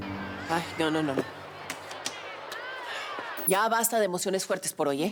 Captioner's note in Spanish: Algarabía en el televisor